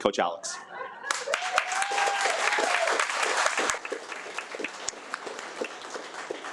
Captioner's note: audience applauds and cheers